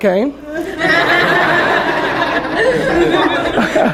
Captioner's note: laughter